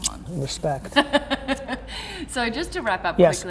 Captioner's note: laughing